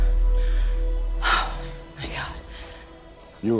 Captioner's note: gasps